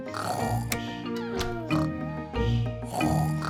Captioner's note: both snoring